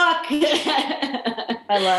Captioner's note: laughing